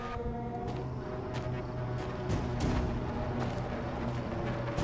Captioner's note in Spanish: Pasos acercándose